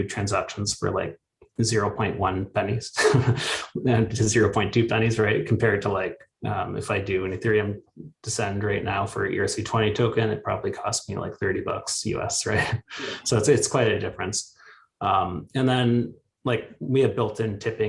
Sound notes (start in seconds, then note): 2.9 chuckles; 12.4 chuckles